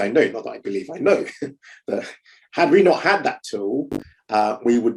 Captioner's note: chuckling